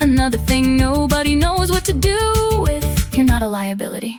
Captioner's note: female voice 1